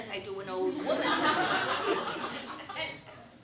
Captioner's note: laughter